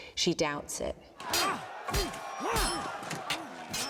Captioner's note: they grunt